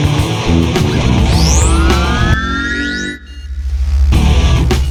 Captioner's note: power-up whirring